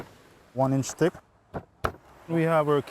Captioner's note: chopping